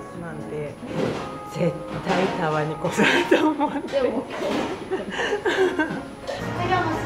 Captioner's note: laughs